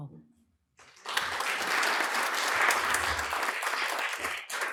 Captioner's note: applause